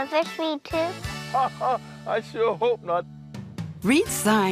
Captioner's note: laughs